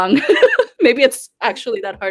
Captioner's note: laughing